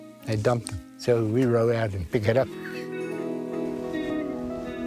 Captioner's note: laughs